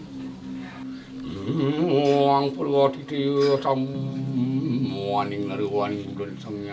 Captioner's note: chanting in sankrit